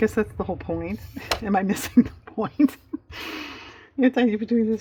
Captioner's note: laughs